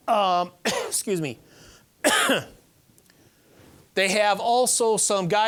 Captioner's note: coughing